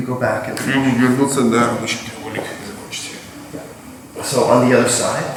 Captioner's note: speaking in a foreign language